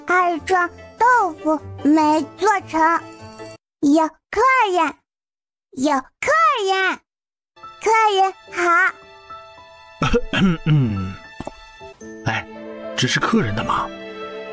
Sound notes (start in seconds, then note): 10.0 coughs